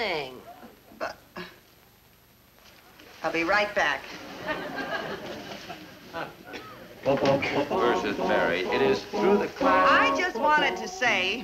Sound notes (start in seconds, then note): 4.9 chorus of voices humming